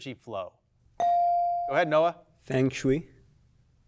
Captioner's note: bell dings